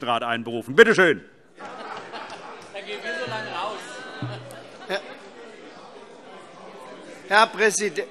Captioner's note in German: Heiterkeit